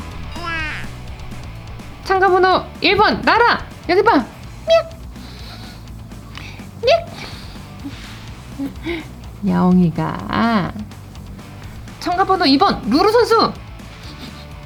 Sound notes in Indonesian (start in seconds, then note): 8.5 tertawa